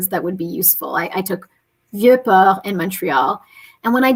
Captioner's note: speaking french